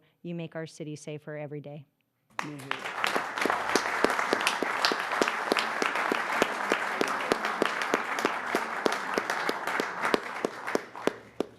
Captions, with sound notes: CUSTOMER SERVICE OF THE v:YEAR? CONGRATULATION FOR YOUR WORDS. CONGRATULATION FOR YOUR WORDS. THANK YOU FOR THE JOB YOU DO. THANK YOU FOR THE JOB YOU DO. YOU MAKE OUR CITY SAFER eEnEVER YOU MAKE OUR CITY SAFER eEnEVER DAY. DAY. [ APPLAUSE ]ç0 [ APPLAUSE ]ç0 >>